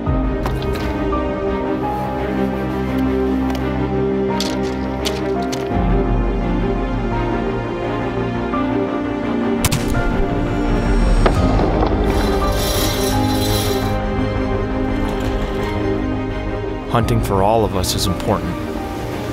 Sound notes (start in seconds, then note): 0.2 ominous music; 4.4 footsteps; 9.6 gun shooting; 12.1 metal clinking